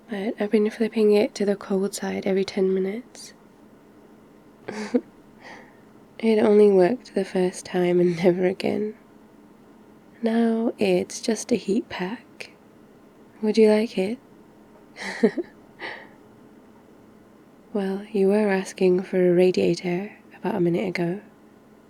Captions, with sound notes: but I've been flipping it to the cold side every 10 minutes *laughs* it only worked the first time and never again now it's just a heat pack would you like it? *laughs* well, you were asking for a radiator about a minute ago